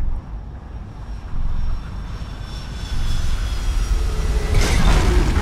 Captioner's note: spooling of aircraft engines